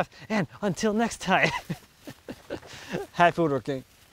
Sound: laughs

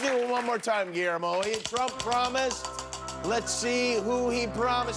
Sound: cheers and applause

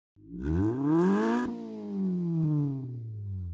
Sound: engine revs

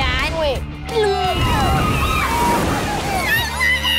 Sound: screaming and laughing

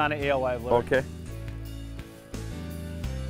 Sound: voiceover

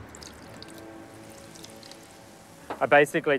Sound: water trickling

